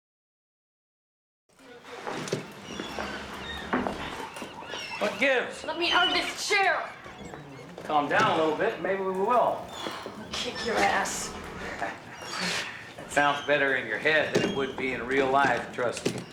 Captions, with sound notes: What gives? Let me out of this chair! Calm down a little bit, and maybe we will. I'll kick your ass. (chuckles) That sounds better in your head than it would be in real life, trust me.